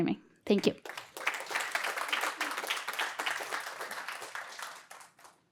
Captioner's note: applause